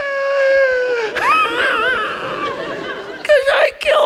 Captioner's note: audience laughs; laughs